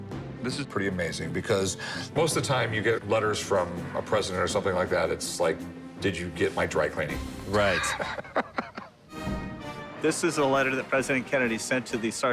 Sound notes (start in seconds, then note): 7.6 chuckles